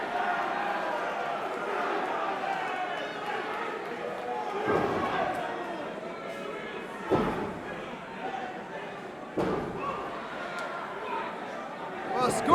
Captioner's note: crowd cheering